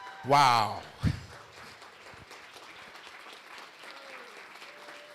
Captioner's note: applause